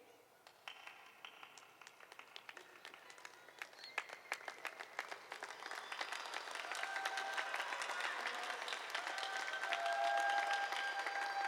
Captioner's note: applause